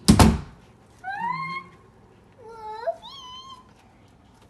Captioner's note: excited squealing